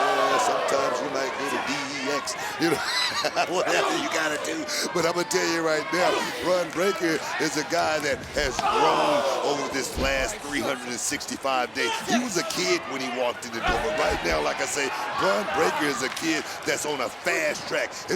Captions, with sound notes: Yeah, sometimes you might need a D, E, X. (laughs) Whatever you gotta do. But I'm gonna tell you right now, Bron Breakker is a guy that has grown over this last 365 days. He was a kid when he walked in the door, but right now, like I say, Bron Breakker is a kid that's on a fast track.